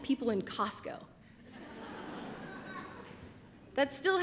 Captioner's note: laughter